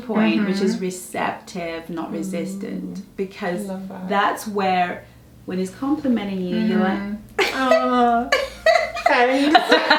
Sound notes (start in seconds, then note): 8.3 giggles